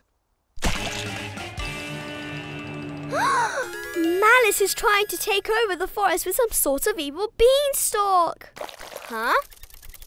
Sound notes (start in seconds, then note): 0.7 dramatic music; 3.5 gasps